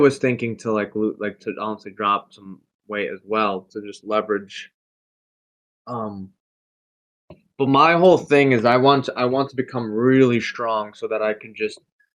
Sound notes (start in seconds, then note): none